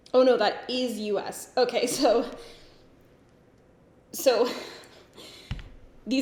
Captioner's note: giggles